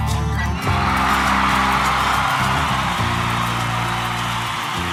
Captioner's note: audience cheering